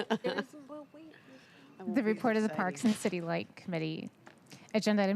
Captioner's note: laughter